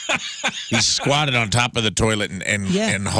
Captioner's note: laughing